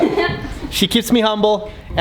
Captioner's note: she laughs